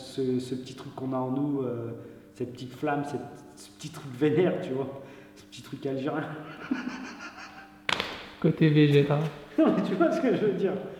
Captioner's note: laughter